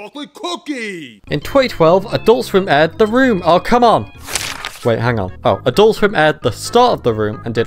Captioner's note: turns page